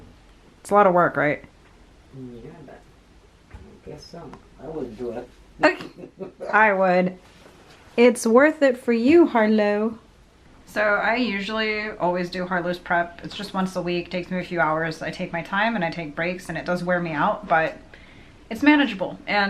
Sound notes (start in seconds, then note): 5.6 laughs